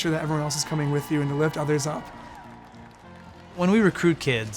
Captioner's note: crowd cheers